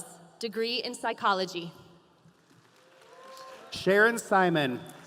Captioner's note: audience applauding